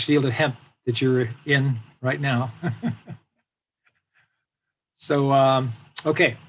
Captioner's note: laughs